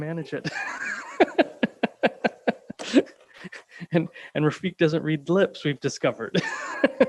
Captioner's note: laughing